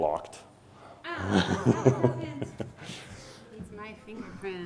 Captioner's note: laughs